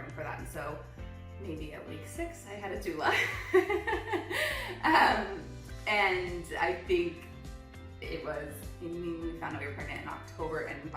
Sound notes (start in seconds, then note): 3.2 laughs